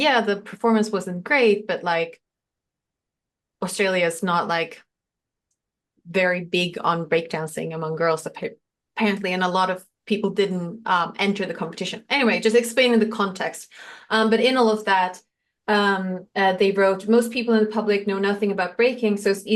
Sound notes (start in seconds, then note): none